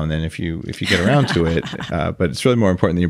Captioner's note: laughs